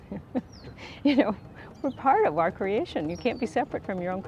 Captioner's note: laughs